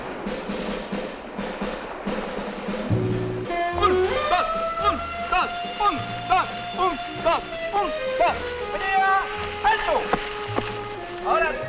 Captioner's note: speaking spanish